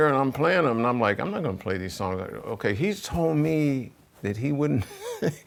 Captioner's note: chuckles